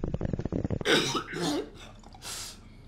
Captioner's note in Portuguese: tosse